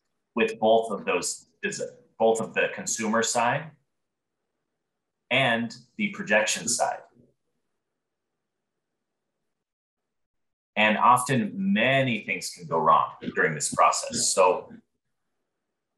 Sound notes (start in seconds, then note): none